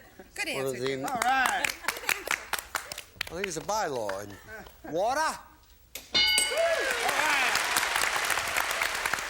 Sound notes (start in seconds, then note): 6.1 bell; 6.5 applause